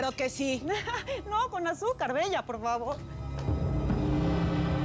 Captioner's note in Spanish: riendo